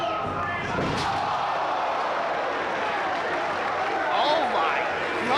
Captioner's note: crowd gasps